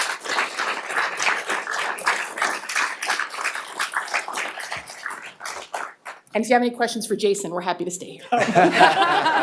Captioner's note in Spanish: aplausos